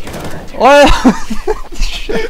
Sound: laugh

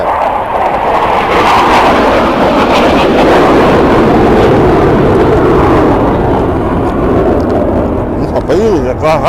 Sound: sound of fighter engine

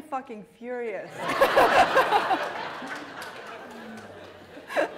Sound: laughter

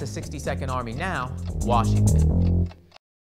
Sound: bass guitar playing; clock ticking

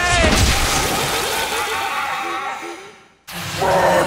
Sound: laughing

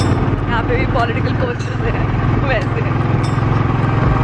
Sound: giggles

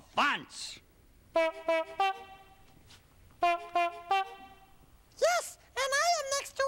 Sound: honking

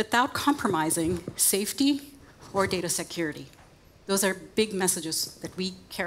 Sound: none

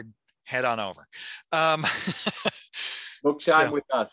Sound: laughing

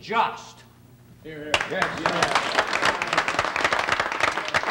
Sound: applauding

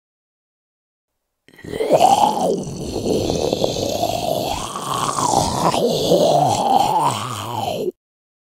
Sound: monster sound fx

